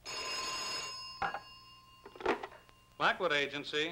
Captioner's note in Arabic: رنين الهاتف